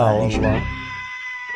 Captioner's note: screaming